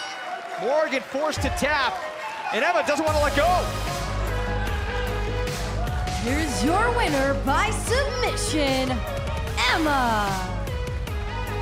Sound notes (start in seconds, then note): 6.4 crowd cheering